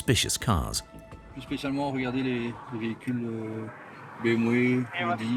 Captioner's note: French spoken audio